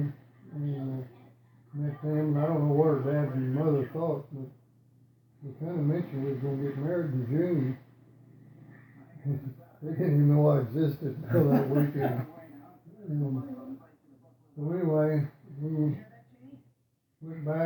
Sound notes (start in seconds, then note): 9.9 laughing